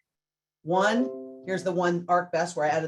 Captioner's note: computer chimes